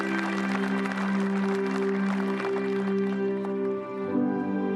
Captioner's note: applause